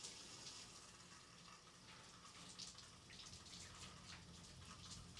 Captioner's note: shower sound in background